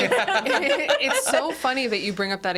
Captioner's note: group laughs